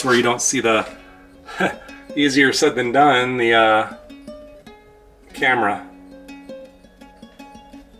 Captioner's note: laugh